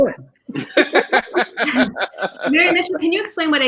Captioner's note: group laughing